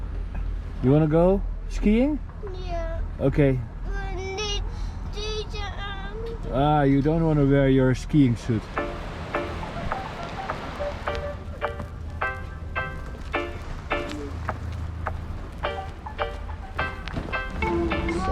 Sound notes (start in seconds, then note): 4.3 foreign language; 8.7 upbeat music